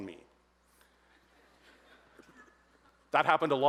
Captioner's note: audience laughs